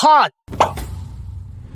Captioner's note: smack!